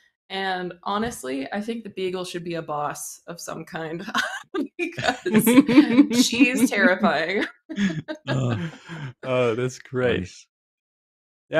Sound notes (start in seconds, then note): 4.8 laughing; 7.6 laughter